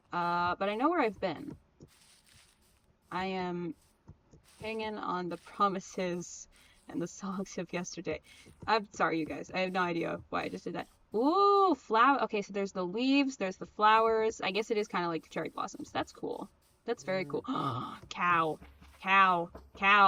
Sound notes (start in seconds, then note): 17.4 gaaaaaaaaaaaaaaaaaaaaaaaaaaasp